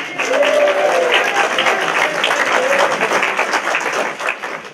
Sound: applause

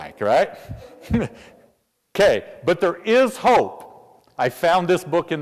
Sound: laugh

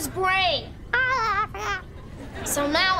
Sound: squeaking

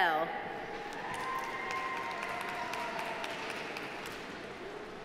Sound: audience applauding

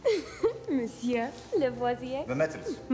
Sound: giggles

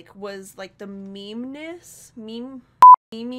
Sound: beep

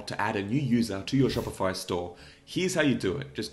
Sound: air whooshes

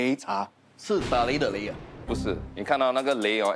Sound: thunder

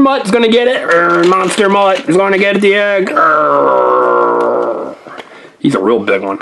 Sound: growls

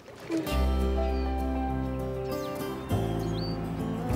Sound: birds chirping

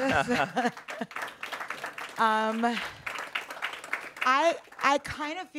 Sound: audience applauds

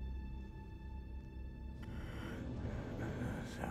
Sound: raspy breathing

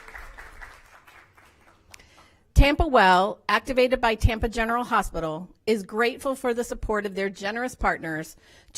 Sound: applause

